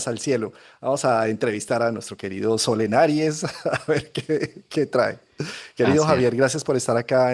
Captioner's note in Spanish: risas